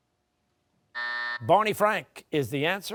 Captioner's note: buzzer